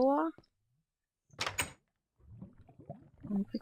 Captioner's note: door opening noise